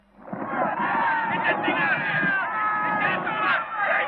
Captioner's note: yelling